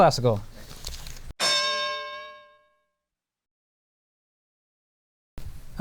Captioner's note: bell